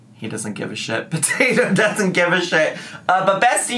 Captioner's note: giggles